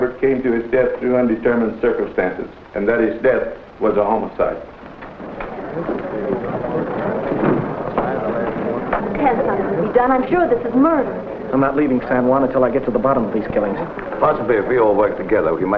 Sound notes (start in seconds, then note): 5.5 people murmuring